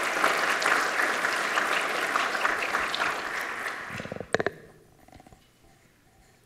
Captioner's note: applause